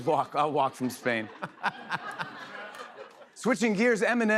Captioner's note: laughter